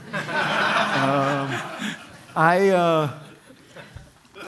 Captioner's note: laughter